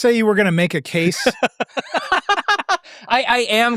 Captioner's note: laughing